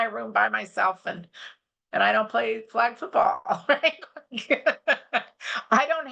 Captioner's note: laughs